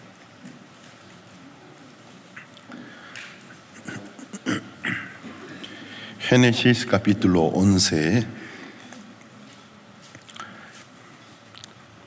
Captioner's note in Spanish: carraspeo